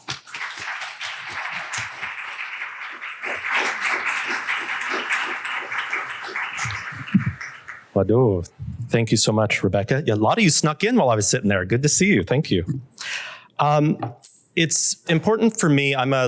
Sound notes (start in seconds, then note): 0.0 applause; 7.6 non-english speech